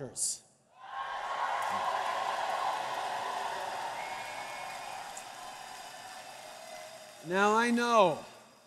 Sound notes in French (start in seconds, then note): 0.7 Acclamations